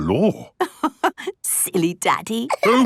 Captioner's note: laughing